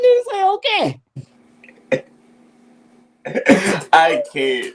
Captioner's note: chuckles